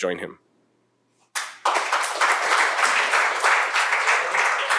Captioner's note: applause